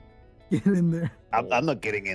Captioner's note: laughs